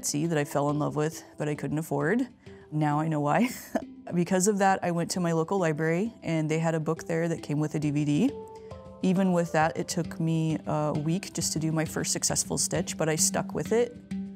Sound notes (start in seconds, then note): 3.5 chuckles